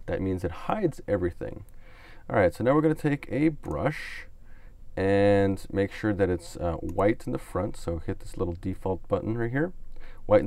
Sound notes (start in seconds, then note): 6.8 clicks on mouse